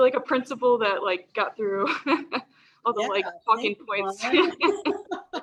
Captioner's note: laughs